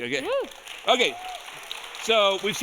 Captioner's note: audience applauding